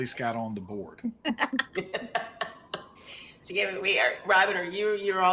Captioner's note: characters laugh